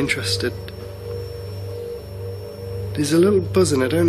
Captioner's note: buzzing